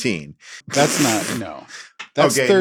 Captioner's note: everybody laughs